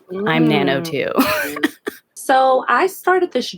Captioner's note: laughs